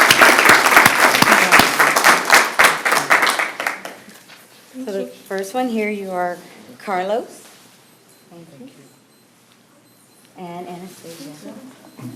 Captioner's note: applause